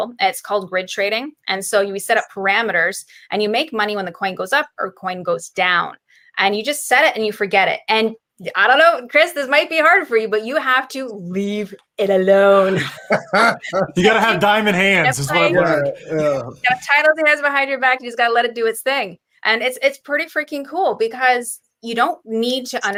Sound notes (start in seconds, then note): 12.6 laughing